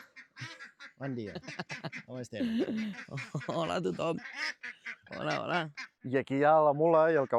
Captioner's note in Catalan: rialles